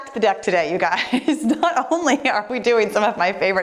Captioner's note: laughing